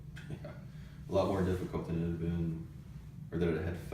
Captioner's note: laughs